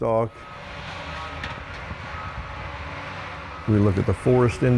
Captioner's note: machinery rumbling